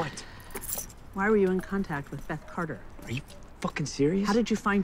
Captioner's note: sighs